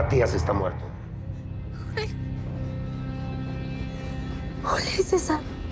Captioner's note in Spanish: Sollozos